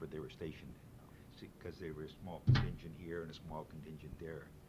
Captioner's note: sharp thud in background